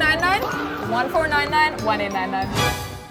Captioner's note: echoes; suspenseful music